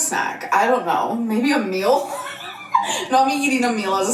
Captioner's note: chuckles